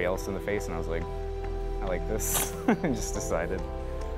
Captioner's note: laughs